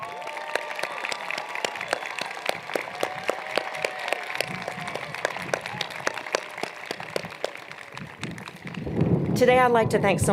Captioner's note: cheers and Applause